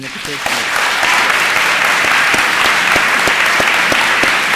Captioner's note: applause